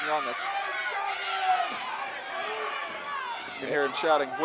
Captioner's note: audience jeering